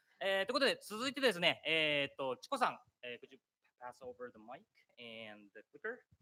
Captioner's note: speaking japanese